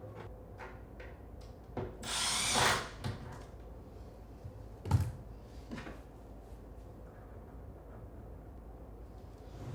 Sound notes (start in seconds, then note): 2.1 tool whirring